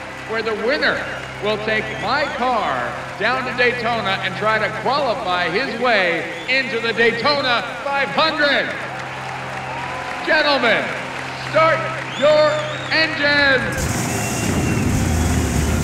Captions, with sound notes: WHERE THE WINNER WILL TAKE MY CAR DOWN TO DAYTONA AND TRY TO QUALIFY HIS WAY INTO THE DAYTONA 500! ( cheering and applause ) GENTLEMEN, START YOUR ENGINES. ( engines roaring )